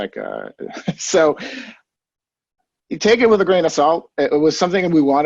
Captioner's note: chuckles